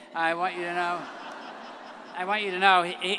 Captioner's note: all laugh